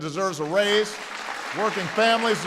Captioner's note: applause